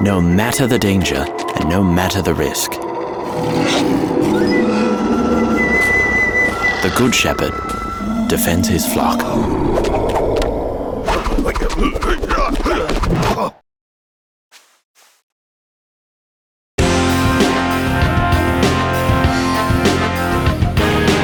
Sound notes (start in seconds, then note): 3.4 beasts roaring; 11.8 Shepherd kung fu grunts; 16.8 rock music